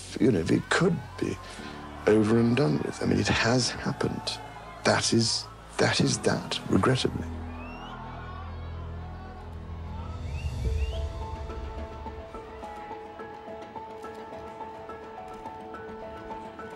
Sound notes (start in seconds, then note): 7.5 crowd cheering; 14.3 upbeat music